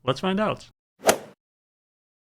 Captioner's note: swoosh